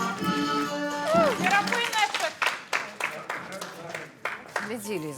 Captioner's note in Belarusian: апладысменты